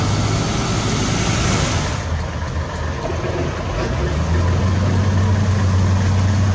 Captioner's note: engine Idle